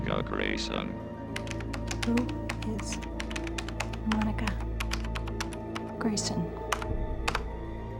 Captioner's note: keyboard clacking